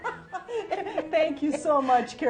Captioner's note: laughing